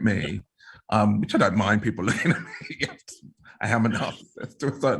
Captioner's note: laughs